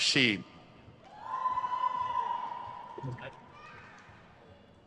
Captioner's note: crowd cheers